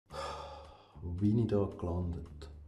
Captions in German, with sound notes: *seufzt* Wo bin ich hier nur gelandet.